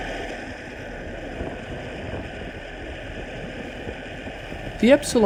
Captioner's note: engine running